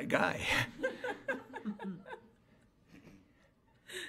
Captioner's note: board laughs